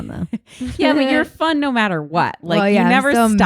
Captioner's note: laughs